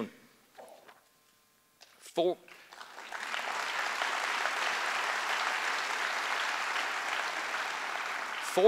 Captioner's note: applause